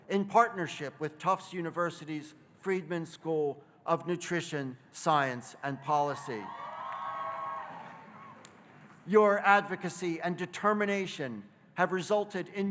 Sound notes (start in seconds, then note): 6.3 audience cheering